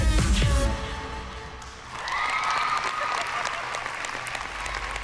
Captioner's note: applause